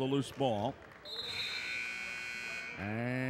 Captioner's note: buzzer sounds